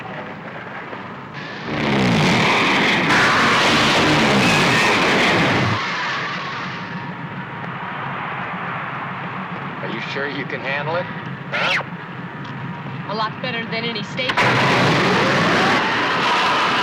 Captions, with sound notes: (zooming) (cheering) Are you sure you can handle it, huh? A lot better than any Stateman. (roaring)